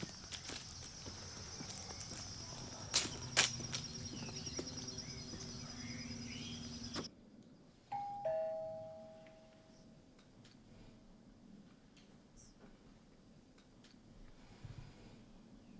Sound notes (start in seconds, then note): 0.0 leaves crumpling; 7.9 doorbell ringing